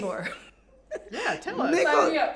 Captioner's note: laughs